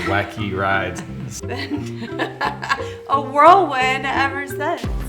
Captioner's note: laughing